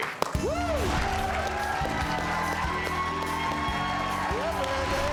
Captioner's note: audience cheers and applauds